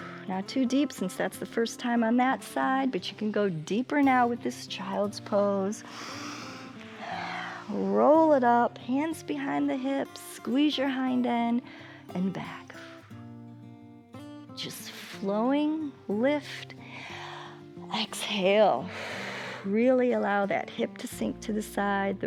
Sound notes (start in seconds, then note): 5.8 inhales and exhales; 18.9 inhales; 18.9 exhales